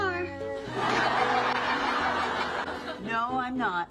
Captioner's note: audience laughing